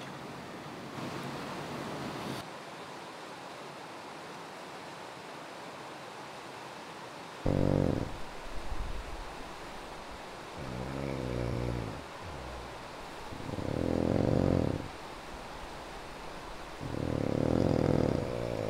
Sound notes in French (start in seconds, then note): 7.4 ronflements